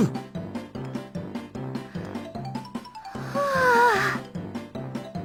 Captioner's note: sigh